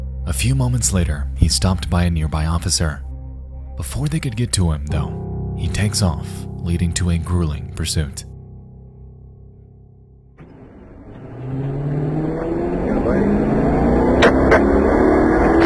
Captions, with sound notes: A few moments later, he's stopped by a nearby officer. Before they could get to him though, he takes off, leading to a grueling pursuit. (engine revs)